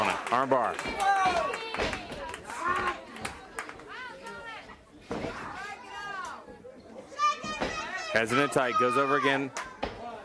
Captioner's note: crowd chatter